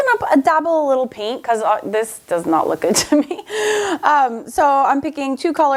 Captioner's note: laughs